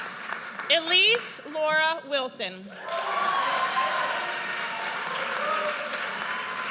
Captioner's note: audience cheers